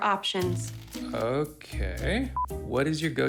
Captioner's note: signal beeps